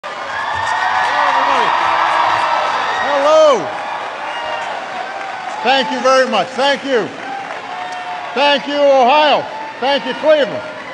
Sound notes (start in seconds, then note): 6.8 applause